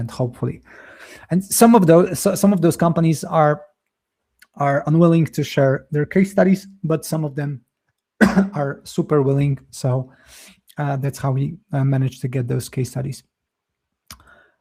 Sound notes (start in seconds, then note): 8.2 coughs